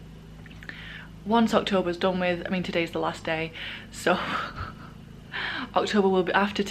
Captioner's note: laughs